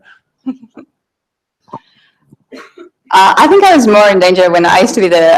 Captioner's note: laughs